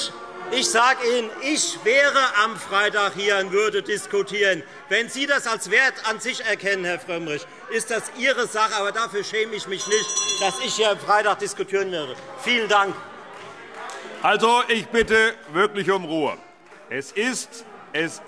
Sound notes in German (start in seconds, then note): 12.0 Beifall Freie Demokraten